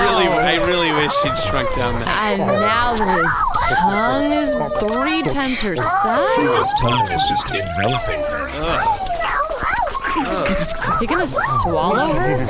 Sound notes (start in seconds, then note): 8.2 the making out gets louder and more fervent